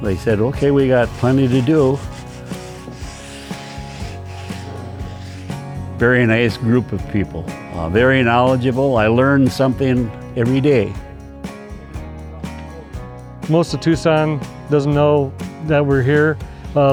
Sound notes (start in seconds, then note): 2.6 sand paper scraping